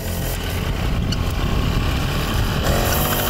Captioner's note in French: Bruit de machine